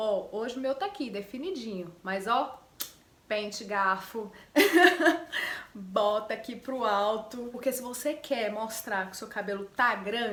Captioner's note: laughs